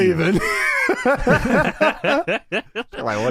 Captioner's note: wheezed laughter